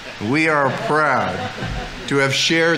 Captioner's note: audience laughing